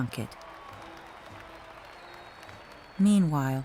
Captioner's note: crowd cheering